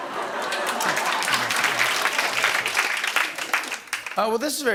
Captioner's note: laughter and applause